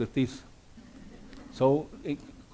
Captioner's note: audience laughs nervously